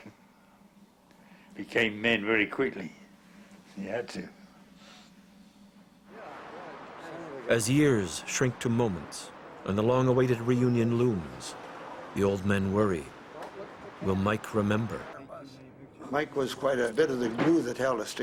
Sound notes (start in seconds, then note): 6.3 voiceover